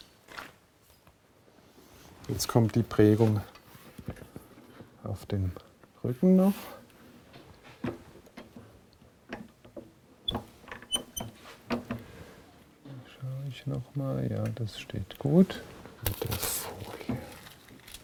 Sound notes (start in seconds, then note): 10.8 slight squeaking noise; 15.9 quietly